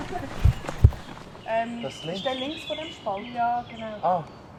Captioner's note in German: auf Schweizerdeutsch